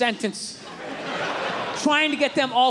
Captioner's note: crowd laughs